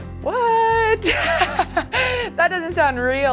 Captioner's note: laughing